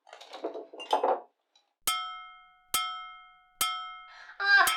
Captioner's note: bong, bong, bong